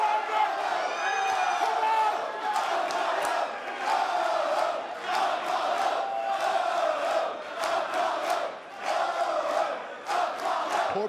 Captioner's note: fans chanting